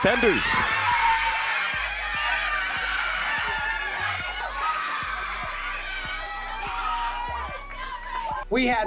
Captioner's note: cheering